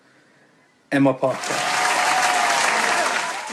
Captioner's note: applause